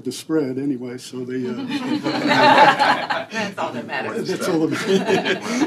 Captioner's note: laughter